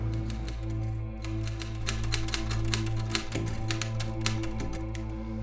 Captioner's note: typewriter typing